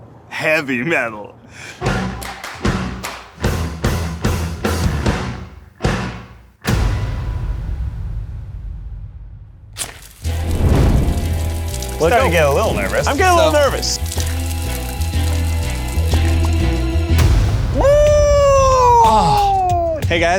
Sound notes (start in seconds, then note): 1.8 bouncy rock music; 6.8 booming explosion sound; 9.8 fuse crackling sound; 9.8 burning fuse crackling; 14.4 bubbling sound; 17.3 device exploding